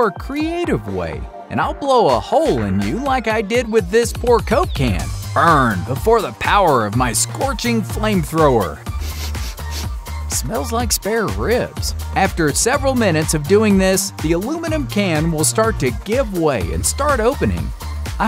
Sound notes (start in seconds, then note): 8.9 sniffing